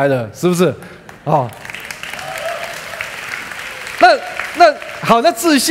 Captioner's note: applause